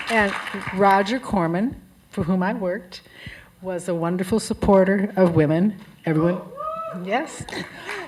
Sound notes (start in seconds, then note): 6.5 cheering